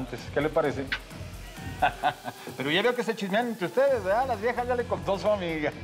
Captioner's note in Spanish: sigue riendo